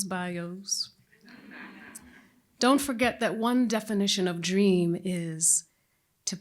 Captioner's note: laughter